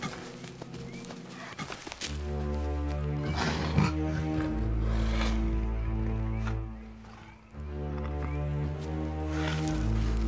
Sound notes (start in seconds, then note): 3.2 growling